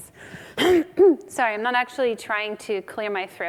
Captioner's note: coughs